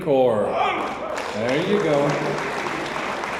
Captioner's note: audience member hoots; audience applauds